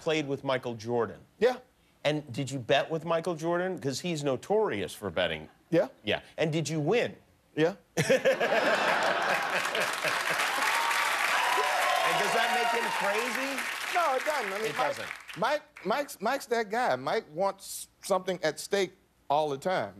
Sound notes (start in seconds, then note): 12.1 laughter and applause